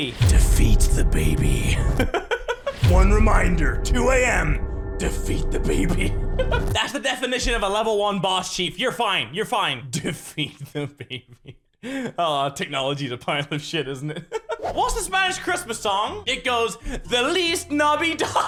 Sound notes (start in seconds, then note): 2.0 giggles